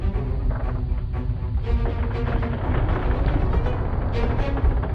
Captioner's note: stairs creaking